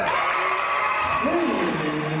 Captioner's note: cheering